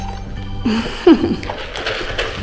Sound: laughs

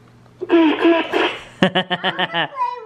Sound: laughing

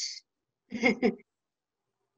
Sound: giggles

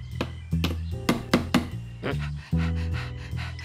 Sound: hammer thudding; grunts; panting

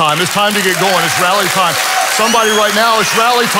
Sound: congregation applauds and cheers

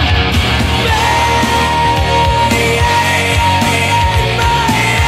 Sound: screams glouriously-gives me goose bumps everytime

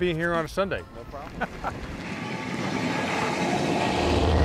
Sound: laughs

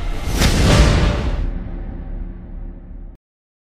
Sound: dramatic Sound

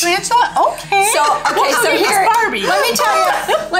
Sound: laughs

